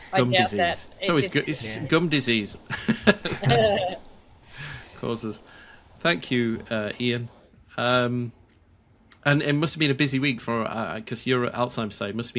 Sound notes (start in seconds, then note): 2.6 panelists laughing